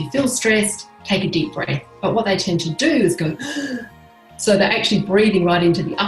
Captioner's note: inhale